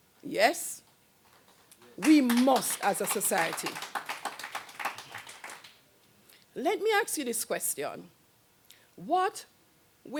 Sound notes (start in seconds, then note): 1.3 applause; 4.2 applause Continues